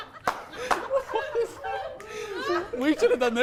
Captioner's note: struggling